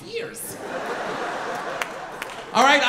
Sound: audience laughing

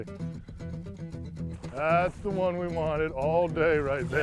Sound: splashing

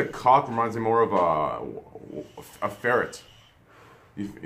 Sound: puke

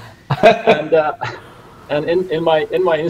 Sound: laughing

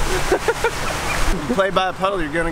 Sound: laughing

